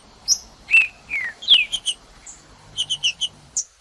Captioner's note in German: trinca ferro cantando